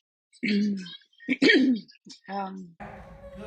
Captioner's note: repeatedly clears throat